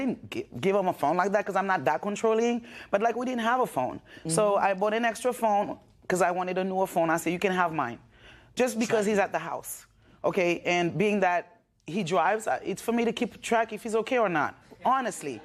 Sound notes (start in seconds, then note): none